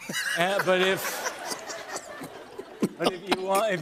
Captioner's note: laughter